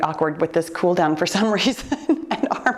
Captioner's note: laughing